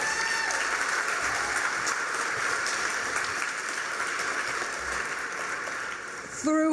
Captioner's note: cheers, applause